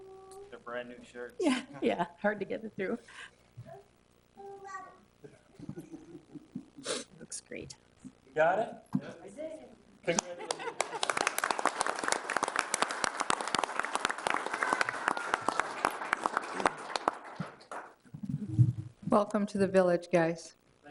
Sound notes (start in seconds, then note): 1.8 chuckles; 10.1 everybody laughs and applauds